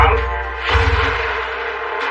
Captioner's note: gunshot